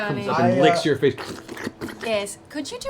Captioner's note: slurping sounds